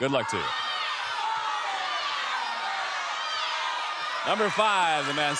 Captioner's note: audience clamoring